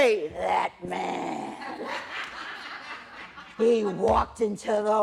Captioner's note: laughter